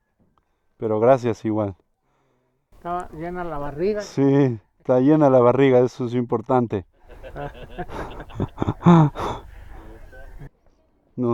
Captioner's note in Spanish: risas